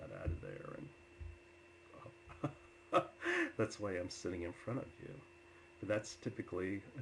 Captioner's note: laughs